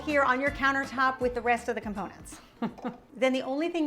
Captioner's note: chuckles